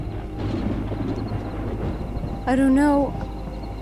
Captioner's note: thunder rumbling